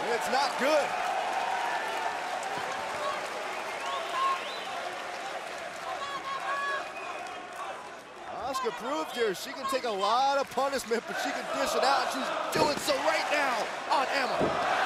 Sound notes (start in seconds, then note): 0.2 crowd cheering; 3.2 crowd chatter